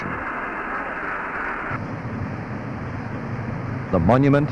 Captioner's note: sound of machinery